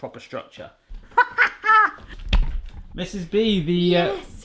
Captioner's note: laughing